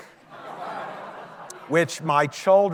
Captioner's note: audience laughing